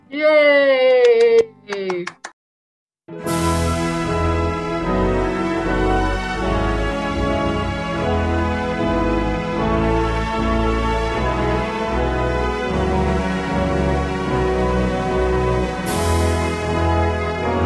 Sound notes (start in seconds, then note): 1.6 applause